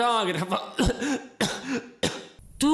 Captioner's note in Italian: tossisce